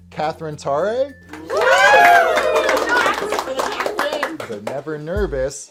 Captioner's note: cheers